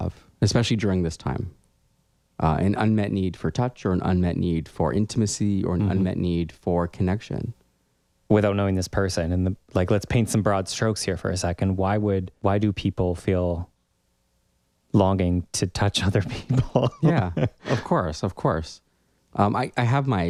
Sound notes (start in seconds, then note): 16.2 laugh